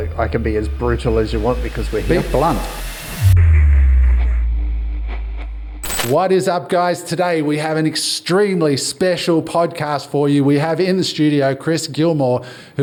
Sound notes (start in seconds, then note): 3.5 tone descending